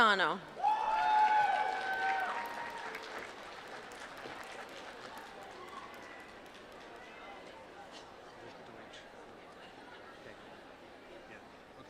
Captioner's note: applause